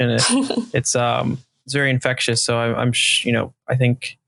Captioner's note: laughing